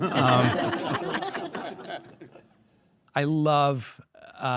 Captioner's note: all laugh